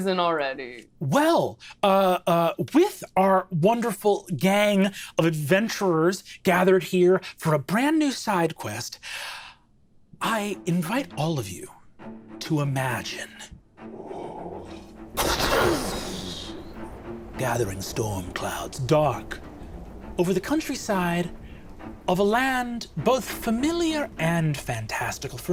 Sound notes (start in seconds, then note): 15.1 thunder booming